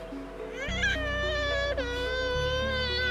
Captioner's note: crying